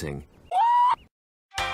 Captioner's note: Lemongrab screaming